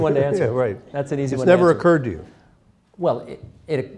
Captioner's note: laughter